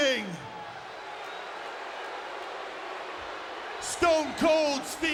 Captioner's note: audience booing